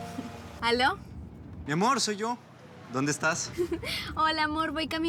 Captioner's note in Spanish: Suena un celular